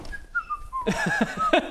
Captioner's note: stealth whistle